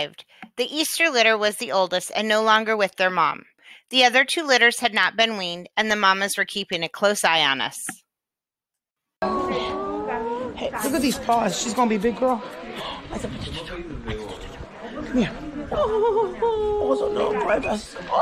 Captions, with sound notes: The Easter Litter was the oldest and no longer with their mom. The other two litters had not been weaned and the mamas were keeping a close eye on us. (sweet sighs) Look at these paws. She's going to be a big girl. (loving sounds)